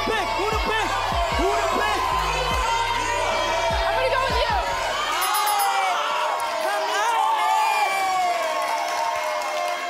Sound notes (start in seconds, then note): 0.0 audience yelling suggestions; 5.1 bell dings; 6.6 audience cheers